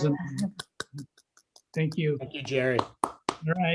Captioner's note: clapping